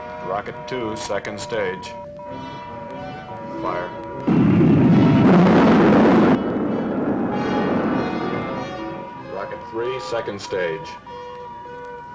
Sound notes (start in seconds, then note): 4.8 rocket rumbling